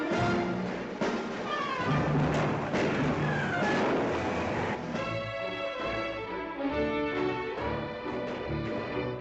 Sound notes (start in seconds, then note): 3.6 guns firing